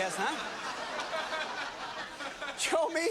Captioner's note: laughter